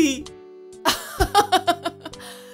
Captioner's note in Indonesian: tertawa